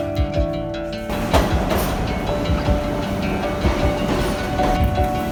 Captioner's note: subway train clanks